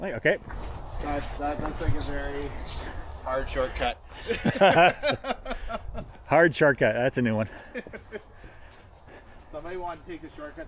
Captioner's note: laughing